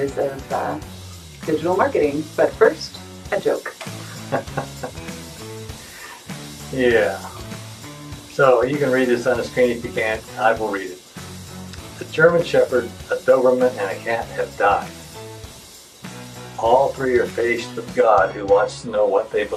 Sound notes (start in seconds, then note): 3.6 laughs